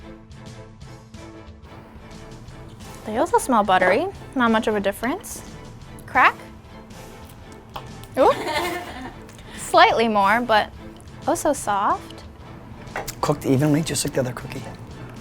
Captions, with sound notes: (dramatic music) - They also smell buttery. Not much of a difference. Crack? Oop. (crew laughing) Slightly more, but also soft. - Cooked evenly, just like the other cookie.